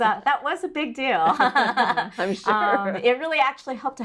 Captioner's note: laugh